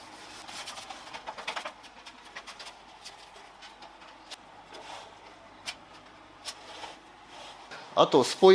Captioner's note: working sound